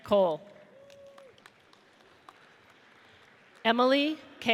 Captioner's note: audience applauds